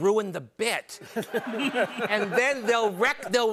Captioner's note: laughter